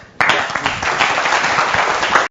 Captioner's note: applause